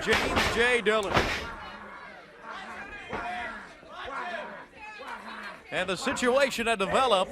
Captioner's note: crowd chatter